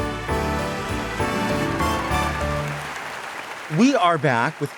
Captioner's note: bright holiday music; audience applauding